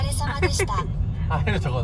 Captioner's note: laughter